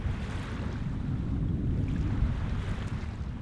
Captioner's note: gentle waves sounds